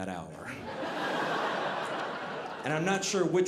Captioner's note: audience laughing